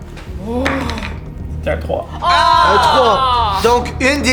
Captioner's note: cries of disappointment